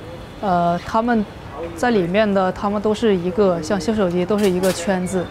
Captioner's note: speaking in Chinese